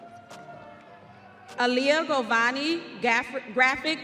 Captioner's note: audience cheering